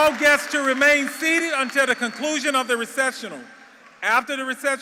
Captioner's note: applause